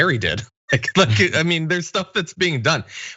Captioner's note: laugh